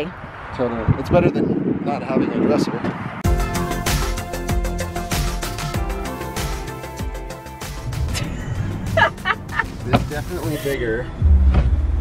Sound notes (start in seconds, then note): 3.2 upbeat electronic music; 8.1 laughs